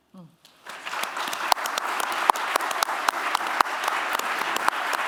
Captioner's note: applause